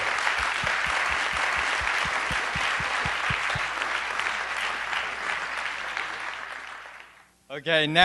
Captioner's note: applause